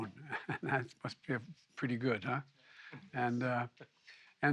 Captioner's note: laughs